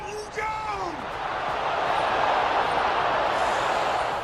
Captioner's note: crowds cheering